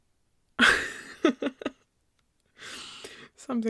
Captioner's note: laughs